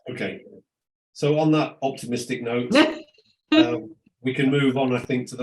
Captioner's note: laughing